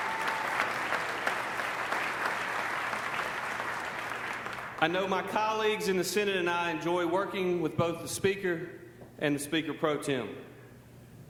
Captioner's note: applause